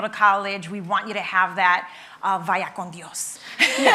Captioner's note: speaks in Spanish; laughing